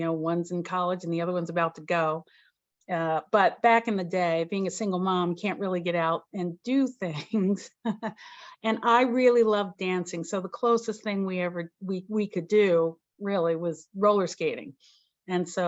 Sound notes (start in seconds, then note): 7.5 chuckles